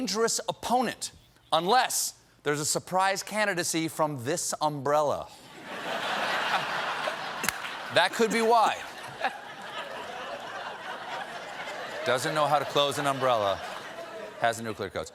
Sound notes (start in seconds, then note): 5.5 laughter